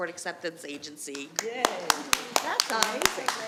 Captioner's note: attendees applauding